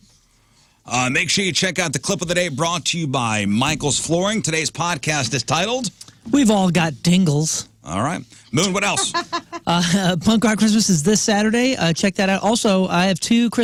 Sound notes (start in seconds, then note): 8.7 laughing